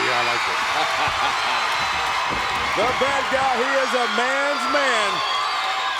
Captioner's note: laugh